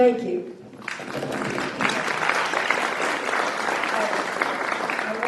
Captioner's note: applause